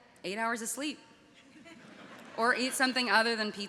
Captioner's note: audience laughing